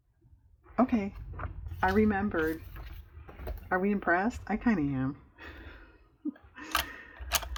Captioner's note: laughs